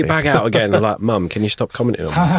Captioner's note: chuckling